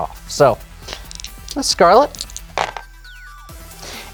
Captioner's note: dice rattle